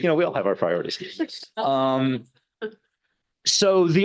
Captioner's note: laughing